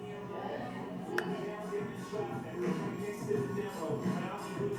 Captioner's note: clapping